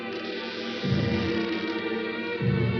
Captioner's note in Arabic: تغلق النافذة وتصدر صريرًا